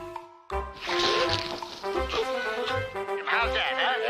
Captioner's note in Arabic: رش الماء